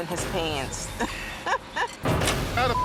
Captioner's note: laughs